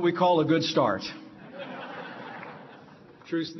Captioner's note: laughter